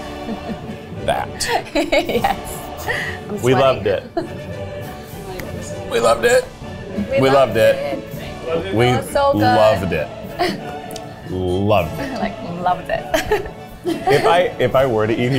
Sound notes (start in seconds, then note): 0.0 laughs; 12.6 laughs